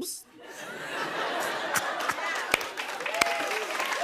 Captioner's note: laughter; cheers and applause